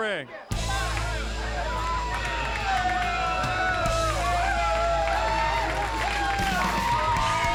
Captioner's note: crowd cheering; upbeat rock music